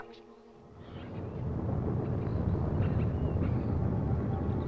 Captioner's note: thunder roaring